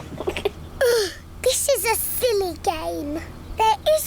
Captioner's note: laughs; groans